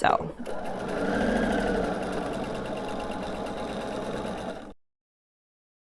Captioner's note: sewing machine whirring